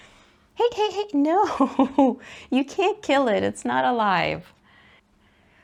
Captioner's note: laughs